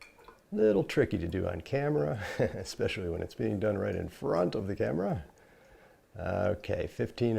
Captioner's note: laughing